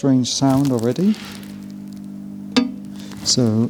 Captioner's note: whirring